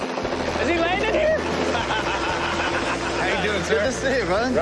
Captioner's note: laughter